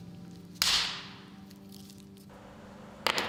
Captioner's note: loud cracking